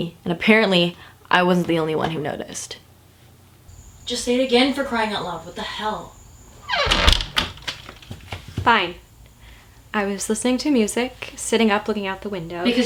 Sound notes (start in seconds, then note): 6.5 door closes